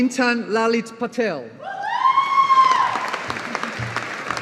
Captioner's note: audience applauding